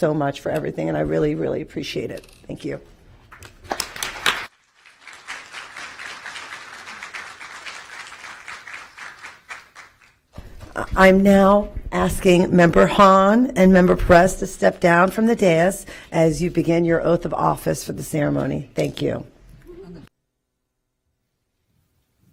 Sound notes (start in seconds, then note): 7.9 applause